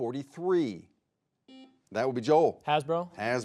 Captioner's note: buzzer beeping